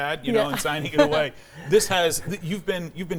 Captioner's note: laughs